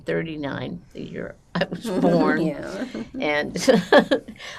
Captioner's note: laughing